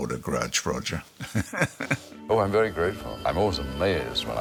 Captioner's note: chuckles